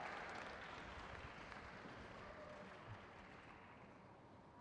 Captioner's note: crowd cheers